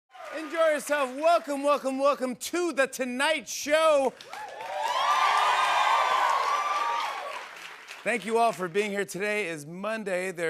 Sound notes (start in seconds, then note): 3.8 cheers and applause